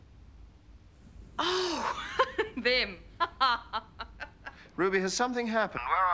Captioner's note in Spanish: risas